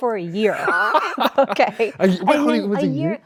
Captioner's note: Andrew laughs